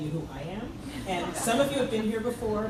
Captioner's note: crowd laughs